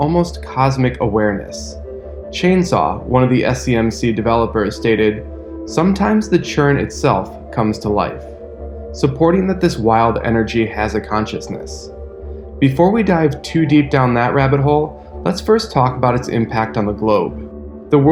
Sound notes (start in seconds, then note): 2.4 spooky sound